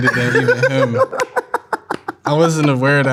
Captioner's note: laughing